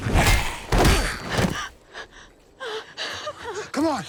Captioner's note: grumbling; heavy breathing